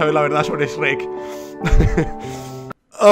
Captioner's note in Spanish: Ríe